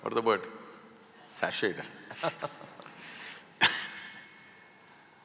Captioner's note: both laugh